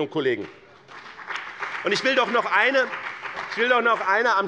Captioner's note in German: Beifall bei dem BÜNDNIS 90/DIE GRÜNEN und der CDU